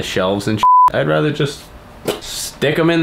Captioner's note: beeping noise